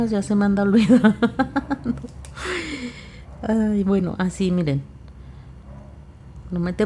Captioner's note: laughs